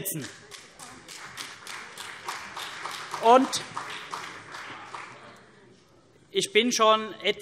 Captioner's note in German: Vereinzelter Beifall CDU